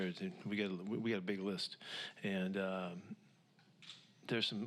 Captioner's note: takes a breath